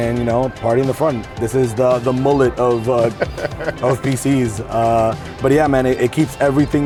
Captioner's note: laughs